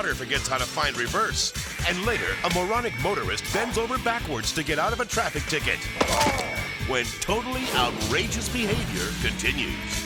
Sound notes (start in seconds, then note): 5.8 driver grunts; 5.8 impact crunches